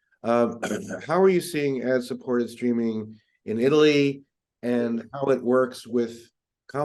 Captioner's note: cough